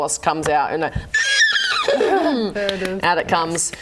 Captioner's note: impressive death whinny